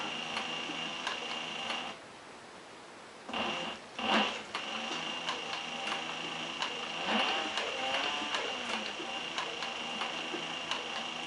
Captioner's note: sewing Machine Sound